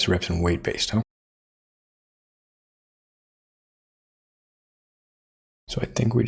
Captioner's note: blank Audio